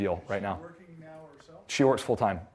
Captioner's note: voiceover